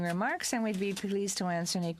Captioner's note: speaking french